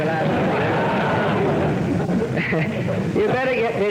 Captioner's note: laughter